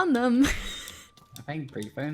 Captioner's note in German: lacht